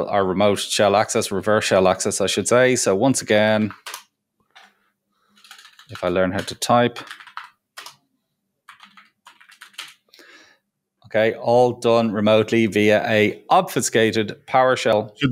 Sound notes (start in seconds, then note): 8.6 fingers typing